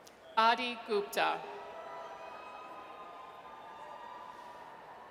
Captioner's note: audience cheers